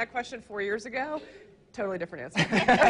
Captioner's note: laughs